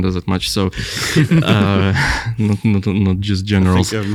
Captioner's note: laughing